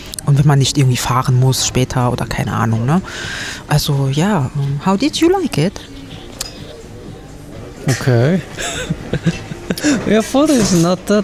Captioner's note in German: gelächter